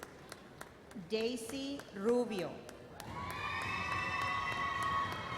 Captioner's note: audience cheers